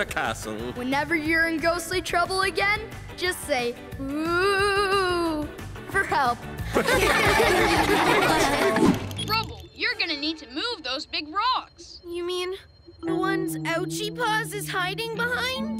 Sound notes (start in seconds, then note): 6.7 laughing